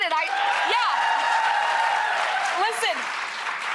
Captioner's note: audience cheering